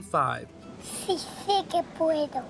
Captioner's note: child speaking Spanish